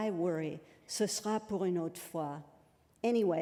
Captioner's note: french